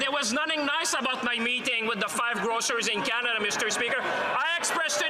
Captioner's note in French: voix de l'interprète